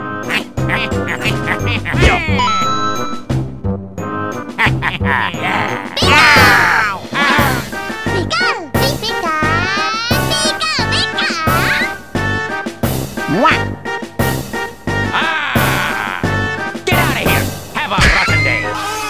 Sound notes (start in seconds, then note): 0.2 wahahoo and Wahahee noises; 4.6 Wahahoo and Wahahee laughter; 9.8 Pikachu gibberish; 18.1 MLG Screams